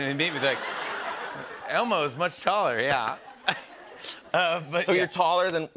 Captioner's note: laughter